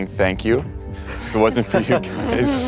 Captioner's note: laughing